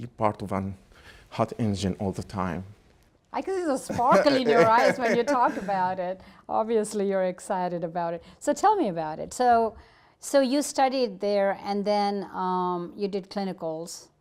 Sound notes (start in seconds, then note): 3.7 laughs